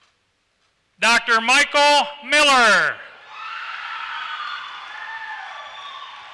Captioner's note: applause